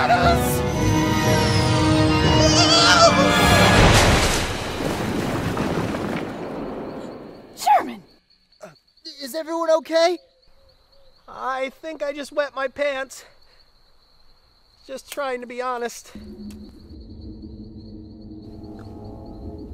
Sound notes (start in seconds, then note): 0.0 dramatic orchestral music; 0.2 object whirring; 2.2 screaming; 3.3 object crashing; 16.2 ominous ambient music